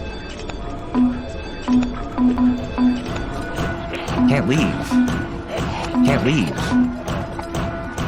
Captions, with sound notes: Can't leave. (object banging) Can't leave.